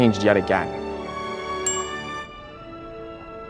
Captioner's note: bell dings